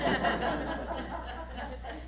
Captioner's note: chuckles